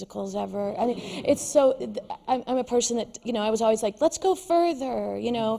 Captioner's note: laughter